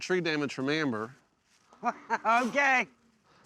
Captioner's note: laughs